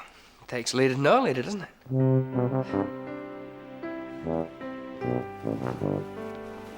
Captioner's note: scoffs; low horn music